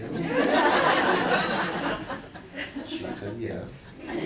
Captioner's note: audience laughing